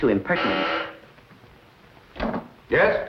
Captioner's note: intercom buzzes